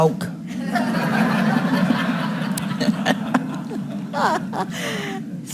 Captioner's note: audience laughing